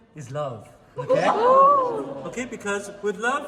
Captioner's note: everyone exclaims